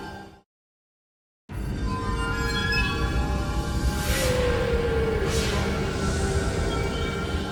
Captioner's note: mysterious music; graphics whooshing; mysterious music